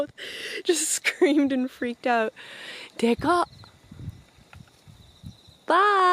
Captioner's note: speaks foreign language